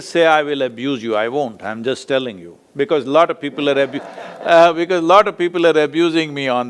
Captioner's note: laughs